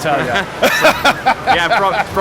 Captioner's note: laughs